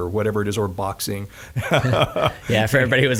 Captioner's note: laughing